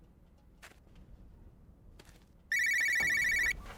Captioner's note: phone ringing